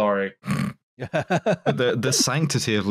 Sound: snorts; laughs

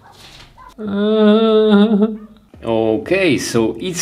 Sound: whines

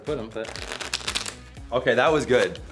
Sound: cards shuffle loudly

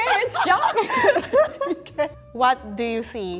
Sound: laughing

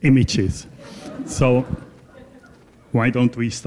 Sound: laughter

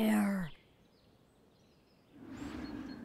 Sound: birds chirping; wind blowing

